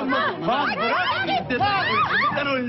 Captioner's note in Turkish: Bağrışmalar